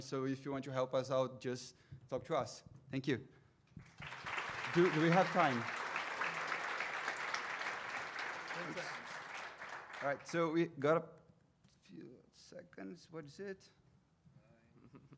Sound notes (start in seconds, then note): 3.8 audience applauding